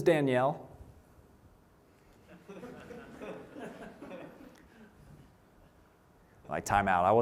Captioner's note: laughter